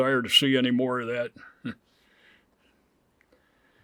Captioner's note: chuckles